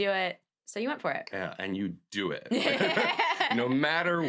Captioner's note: laughs